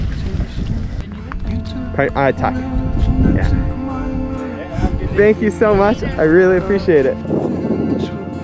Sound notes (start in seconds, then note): 0.1 indistinct chatting